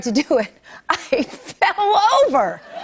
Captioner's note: laughter